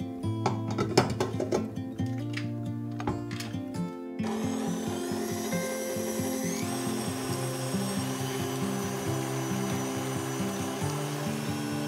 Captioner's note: stirring rods